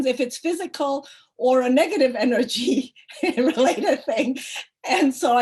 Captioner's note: chuckles